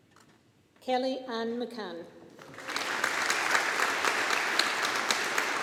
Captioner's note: audience applauding